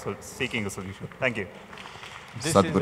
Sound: applause

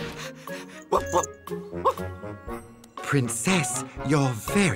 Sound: barks

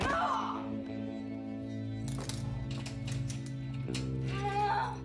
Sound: moans; metal clasping

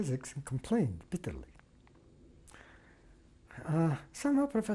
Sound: pauses for 3 seconds

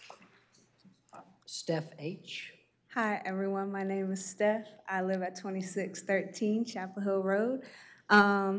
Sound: applause

